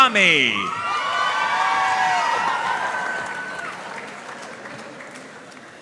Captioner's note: audience cheering and applauding